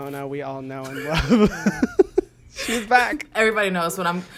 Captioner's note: both laugh